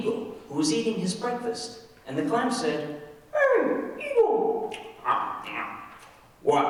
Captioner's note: chomping